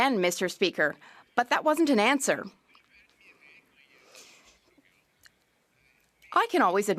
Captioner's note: speaking French